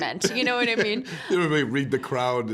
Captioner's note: laughing